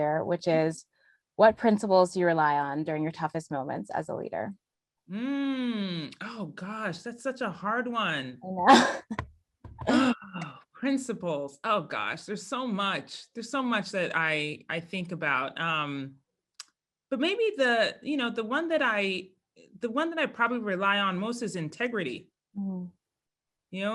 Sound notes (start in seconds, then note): 9.5 laugh